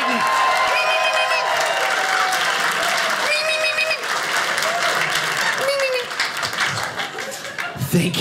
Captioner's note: audience applauding